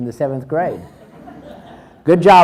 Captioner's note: crowd laughs